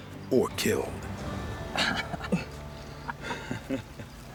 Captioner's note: laughing